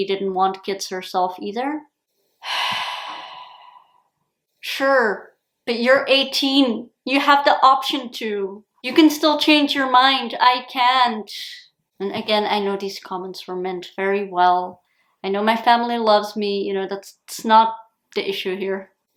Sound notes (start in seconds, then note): 2.4 sigh